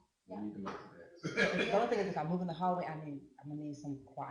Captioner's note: laughter